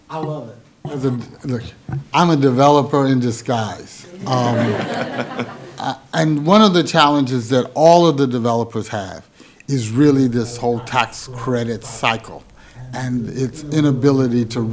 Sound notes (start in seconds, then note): 4.0 laughing